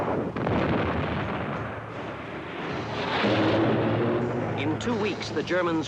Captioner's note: explosions continues